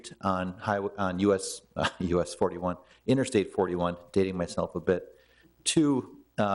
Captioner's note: chuckles